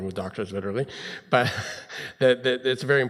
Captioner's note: laughs